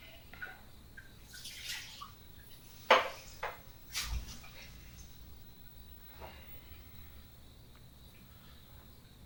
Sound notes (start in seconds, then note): 3.1 glass thudding; 5.4 insects chirping